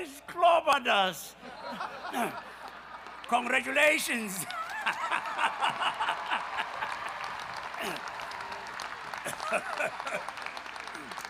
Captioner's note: rousing applause and cheering